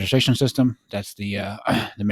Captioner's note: clears throat